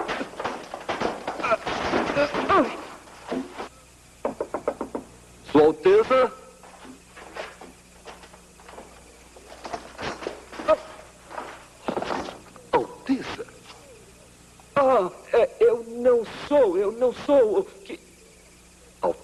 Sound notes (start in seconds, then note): 4.2 knocking; 11.4 thud